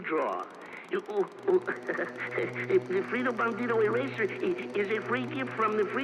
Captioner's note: speaking in foreign language